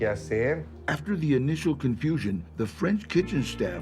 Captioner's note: in English